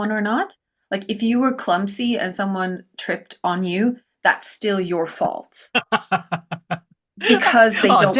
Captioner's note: laughs